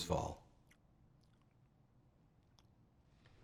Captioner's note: smacking